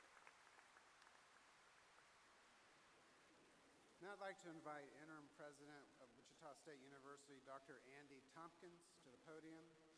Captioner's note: applause